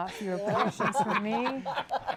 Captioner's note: laughter